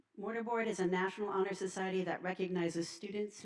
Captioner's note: none